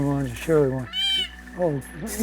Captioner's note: meow